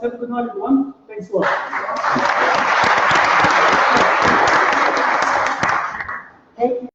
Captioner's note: applause